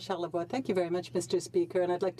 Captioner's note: speaking French